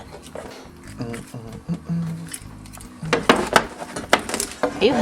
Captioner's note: humming